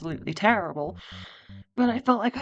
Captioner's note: big breath